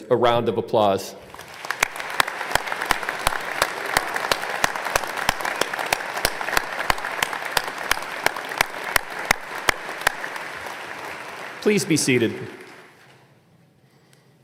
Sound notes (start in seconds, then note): 1.2 applause